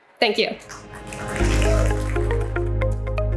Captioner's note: audience applauding; soft upbeat music